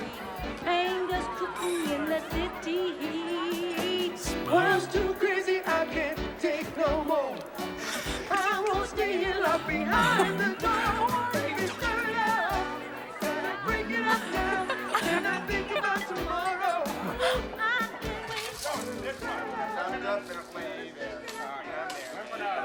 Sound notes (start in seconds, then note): 13.0 giggling; 17.7 men Talking